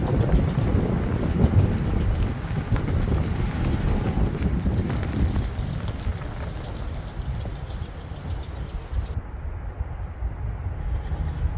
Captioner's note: wind howling